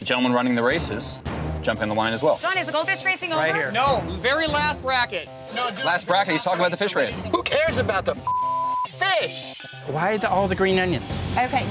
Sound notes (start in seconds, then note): 8.2 beep